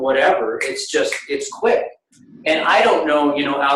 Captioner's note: snaps fingers